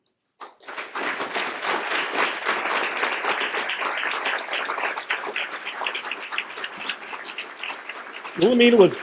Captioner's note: applause